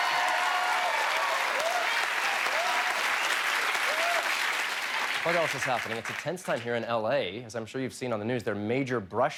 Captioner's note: cheers and applause